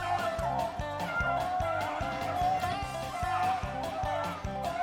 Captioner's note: dogs barking